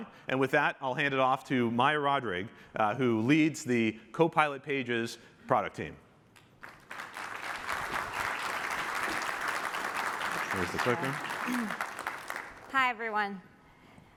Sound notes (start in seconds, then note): 9.4 applause